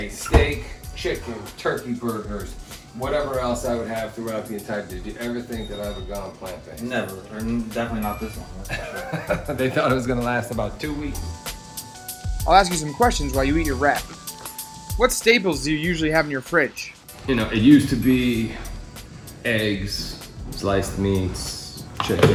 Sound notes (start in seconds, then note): 8.5 laughs